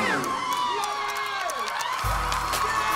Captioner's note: cheers and applause